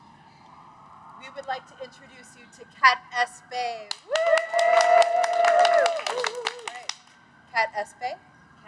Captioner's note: cheers